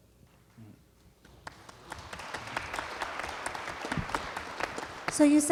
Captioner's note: applause